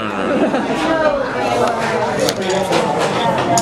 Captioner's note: laughs